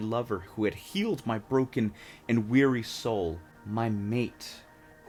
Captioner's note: none